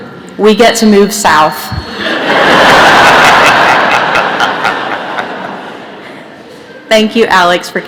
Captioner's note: laughter